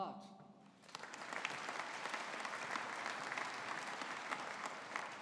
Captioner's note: audience applauding